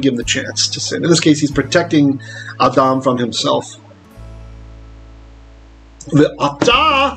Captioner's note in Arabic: باللغة العبرية